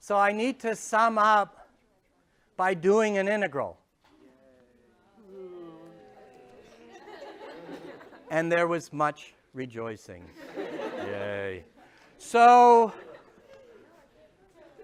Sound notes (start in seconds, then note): 5.1 sarcastically; 6.5 chuckles; 10.1 sarcastically